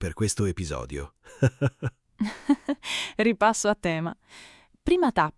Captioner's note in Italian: Haha